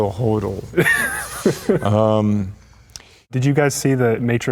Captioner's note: laughs